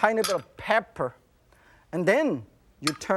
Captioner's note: none